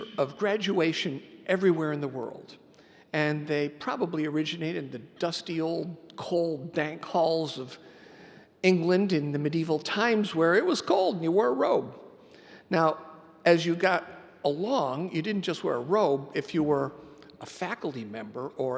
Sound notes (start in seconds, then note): none